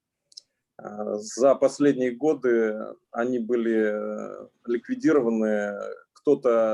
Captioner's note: speaking Russian language